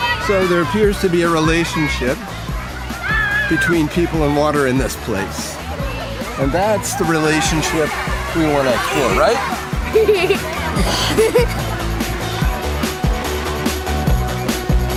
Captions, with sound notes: SO THERE APPEARS TO BE A RELATIONSHIP BETWEEN PEOPLE AND WATER IN THIS PLACE. AND THAT'S THE RELATIONSHIP BETWEEN WATER THAT'S COOL, RIGHT? (KID LAUGHS) (UPBEAT BOUNCY MUSIC)